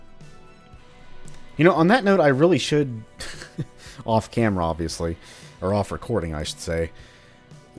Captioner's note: chuckles